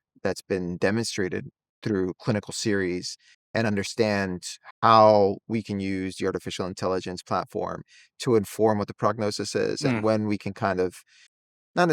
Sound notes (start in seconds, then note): 9.5 hums